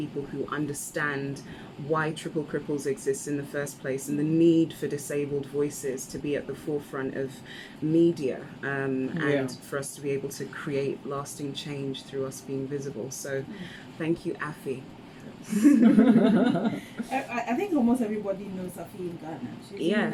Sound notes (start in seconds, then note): 15.5 laugh